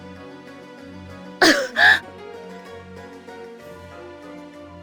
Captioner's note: cough